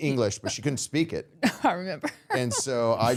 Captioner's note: laughing